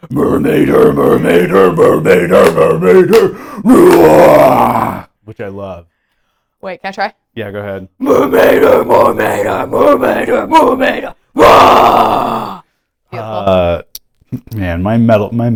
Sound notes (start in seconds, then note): 9.0 screams